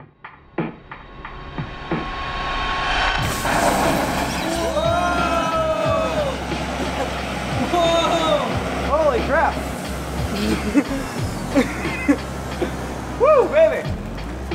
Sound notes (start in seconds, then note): 3.1 flames hissing